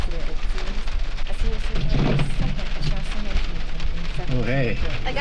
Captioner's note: bags rustling